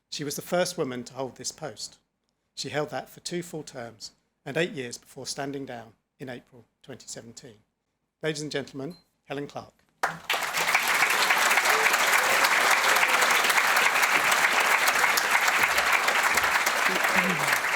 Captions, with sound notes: She was the first woman to hold this post. She held that for two full terms and eight years before standing down in April, 2017. Ladies and gentlemen, Helen Clark. (audience applauding and cheering)